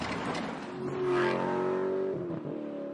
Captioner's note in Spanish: sonido de coche de carreras